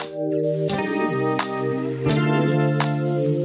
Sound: spray painter sizzles

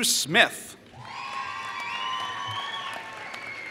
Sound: applause

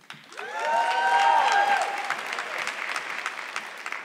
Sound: audience clapping

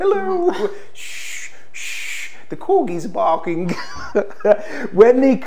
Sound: shushes; chuckles

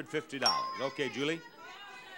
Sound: bell dings

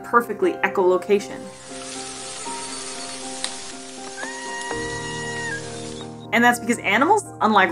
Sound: belugas vocalizing

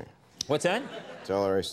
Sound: audience laughing

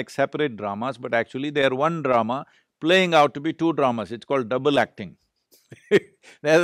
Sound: laughs

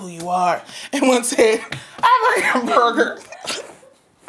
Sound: laughing

